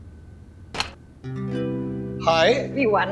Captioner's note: door lock clicking